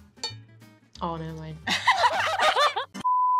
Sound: explosion of laughter

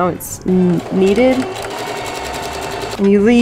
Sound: sewing machine running

